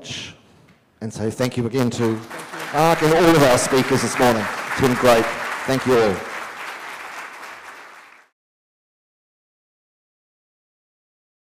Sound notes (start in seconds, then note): 5.5 audience applause